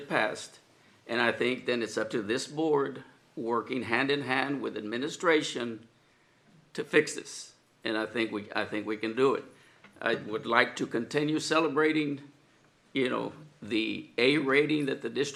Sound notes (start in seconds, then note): none